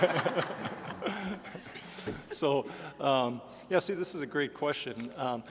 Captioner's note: all laughing